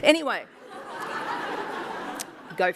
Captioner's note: laughter